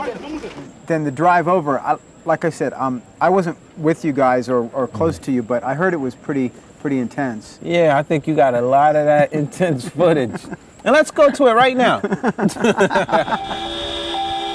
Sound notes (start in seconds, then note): 11.8 laughs